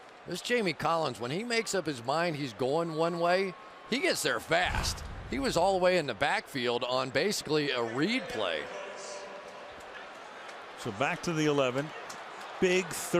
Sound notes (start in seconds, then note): 9.2 pa announcement